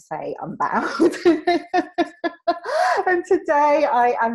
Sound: laughs

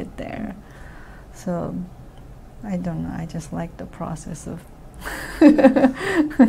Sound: laughs

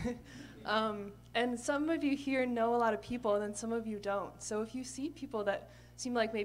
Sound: laughter

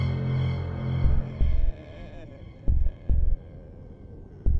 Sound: music intensifies; zombie groaning

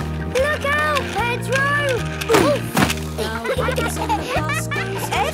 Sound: laughter

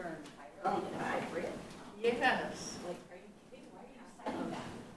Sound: people chattering

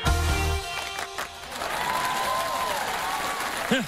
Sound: cheers and applause

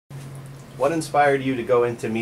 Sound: voiceover

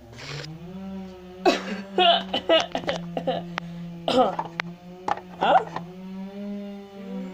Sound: ryan coughing

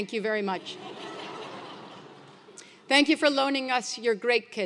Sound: laugh

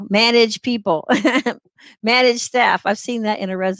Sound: laughter

